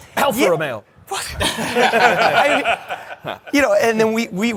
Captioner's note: laughter